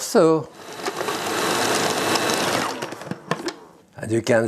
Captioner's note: food processor whirring